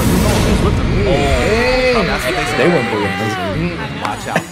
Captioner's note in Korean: 환호